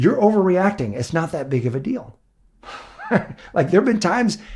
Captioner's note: laughs